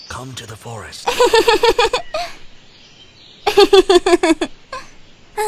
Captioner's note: Acela giggling